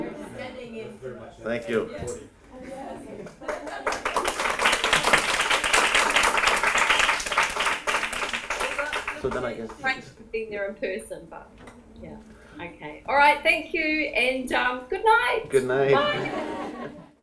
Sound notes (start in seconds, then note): 0.0 audience laughter; 3.2 applause